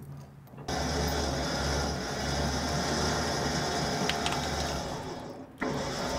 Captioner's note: chains rattling; engine whirring; creaking; engine whirring